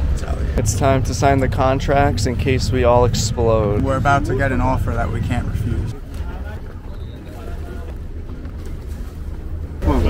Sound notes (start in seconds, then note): 6.3 people chattering